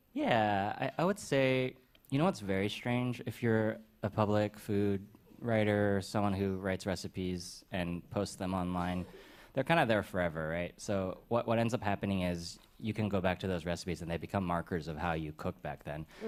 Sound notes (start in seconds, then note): none